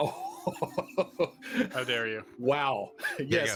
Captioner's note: laughing